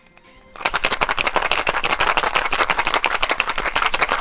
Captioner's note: ice rattling